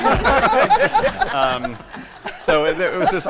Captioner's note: laughter